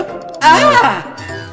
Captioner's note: both yell